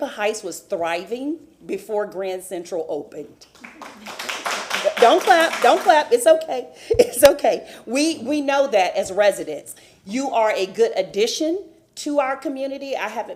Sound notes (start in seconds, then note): 6.9 applause